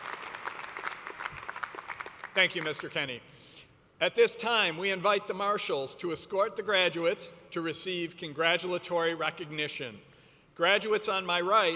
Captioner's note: applause